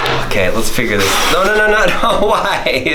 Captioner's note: blowing